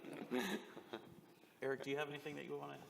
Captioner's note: laughter